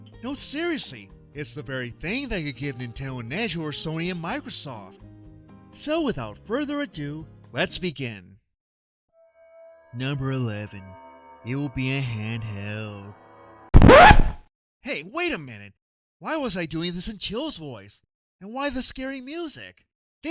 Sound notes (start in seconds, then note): 13.7 record Scratch!